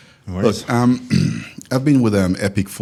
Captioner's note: clears throat